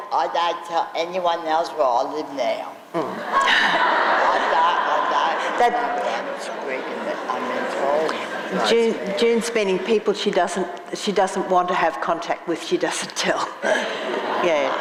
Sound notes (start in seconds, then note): 3.0 laughing